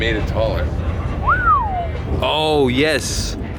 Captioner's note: whistling